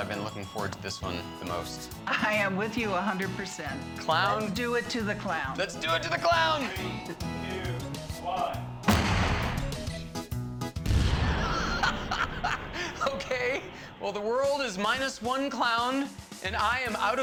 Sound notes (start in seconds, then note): 11.3 Pogue laughing